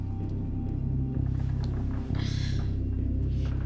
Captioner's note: creaking